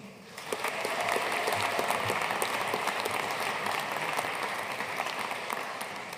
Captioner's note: audience cheering and applauding